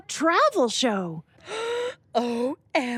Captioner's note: Isabelle gasps